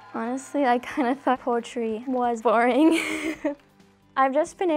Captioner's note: laughs